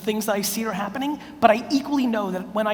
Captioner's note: none